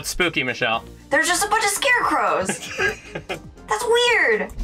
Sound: laughs

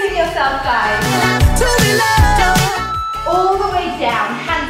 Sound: alarm beeping

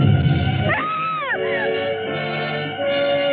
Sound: scream

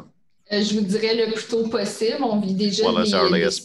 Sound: speaking in French

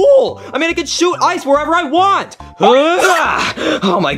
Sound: grunting

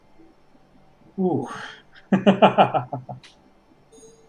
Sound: laughs

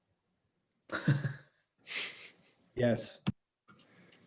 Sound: laughing

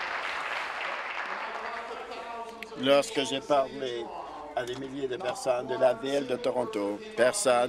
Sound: applause

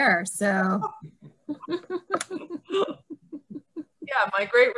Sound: laughing

